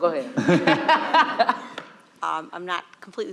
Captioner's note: audience laughing